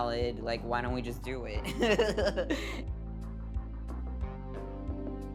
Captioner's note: laughing; quiet music